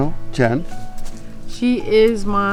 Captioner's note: speaking in foreign language